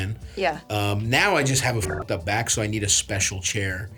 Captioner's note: beeps